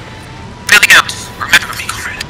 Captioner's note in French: statique